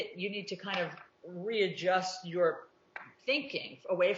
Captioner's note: pop sound